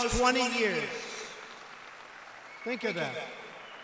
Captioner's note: applause